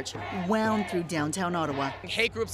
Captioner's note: chanting